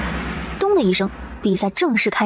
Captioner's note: thud!